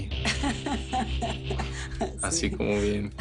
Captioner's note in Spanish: Ella ríe